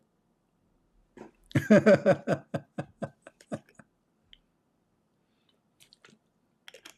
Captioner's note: Ketawa